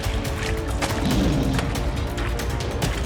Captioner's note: lion roars